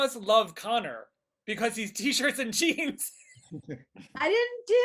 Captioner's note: laughing